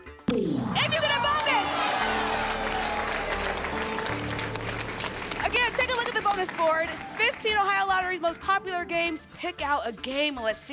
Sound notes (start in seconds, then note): 0.6 cheering and applause